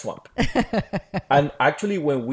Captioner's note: laughs